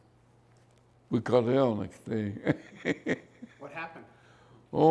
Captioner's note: laughs